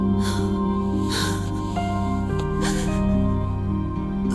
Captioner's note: sobbing